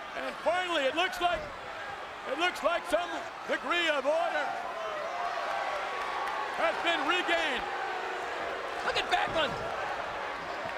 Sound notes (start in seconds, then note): 8.0 crowd boos